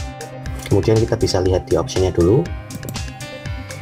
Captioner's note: click